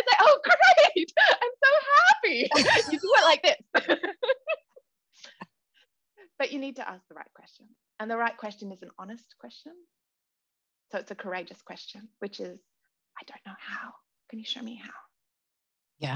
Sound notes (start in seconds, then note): 2.4 both laugh; 3.7 laughter continues